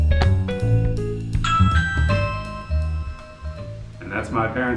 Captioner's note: device chimes